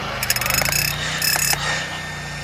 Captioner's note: drill sound